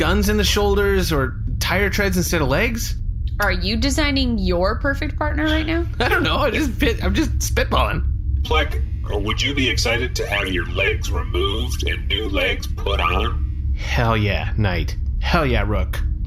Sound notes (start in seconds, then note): 5.4 laughing